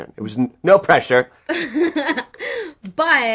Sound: she laughs

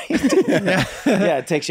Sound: all laughing

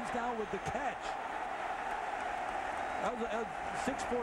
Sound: cheering, applause

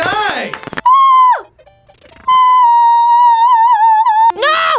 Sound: vocalizes

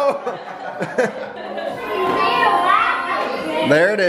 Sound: laughing

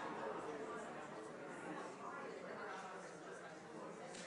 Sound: audience chatters

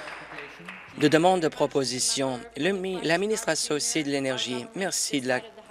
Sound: applause

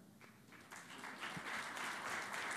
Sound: applause

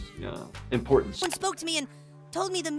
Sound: computer mouse clicks

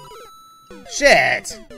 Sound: Super Mario Death Audio

